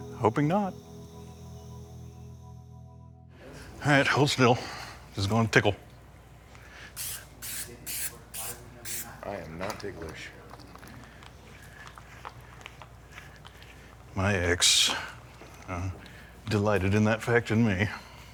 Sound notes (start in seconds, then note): none